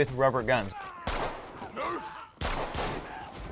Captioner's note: gun blasting